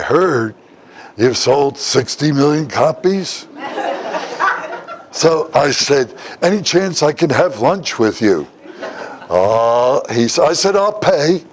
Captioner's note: Смех